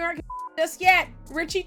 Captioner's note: beep